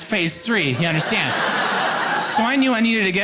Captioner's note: audience laughing